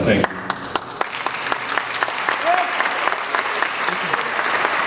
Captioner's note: audience applauds